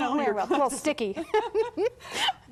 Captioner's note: both chuckle